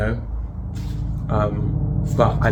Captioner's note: airplane overhead